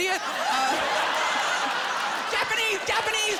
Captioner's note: laughter